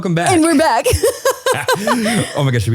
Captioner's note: laughing